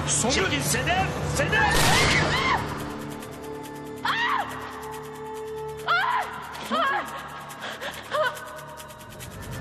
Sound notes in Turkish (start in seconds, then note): 1.7 Kurşun sesi; 2.0 Çığlıklar